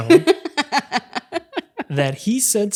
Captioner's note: laughs